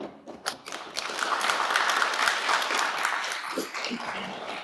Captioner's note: audience applauding